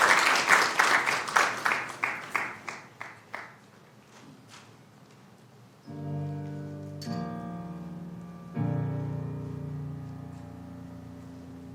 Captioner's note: applauding